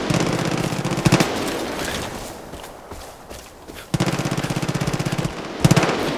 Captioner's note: gunshots